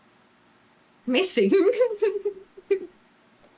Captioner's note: laughs